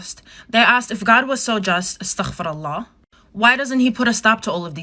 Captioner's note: speaks foreign language